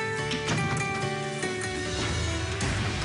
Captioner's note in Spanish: Portazo